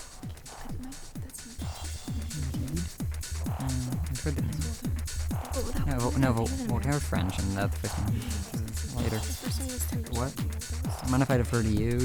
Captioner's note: whispering